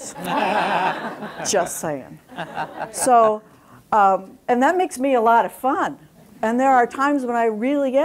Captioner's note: laughter